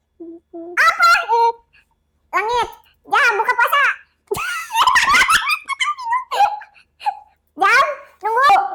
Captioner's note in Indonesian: tertawa